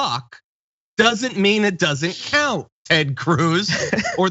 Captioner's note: laugh